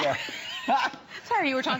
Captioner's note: laughter